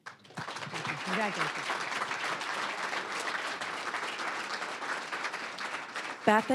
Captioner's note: applause